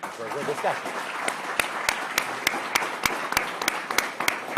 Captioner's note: audience applauding